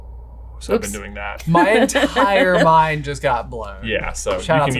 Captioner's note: laughs